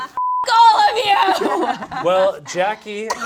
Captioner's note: beep